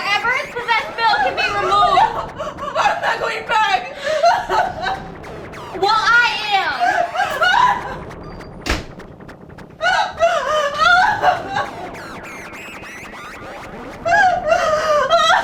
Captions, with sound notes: - Whatever has possessed Bill can be removed. - (sobbing) I'm not going back. (crying) - Well, I am (sobbing) (suspenseful music)